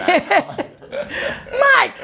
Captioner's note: Gary and Adam laugh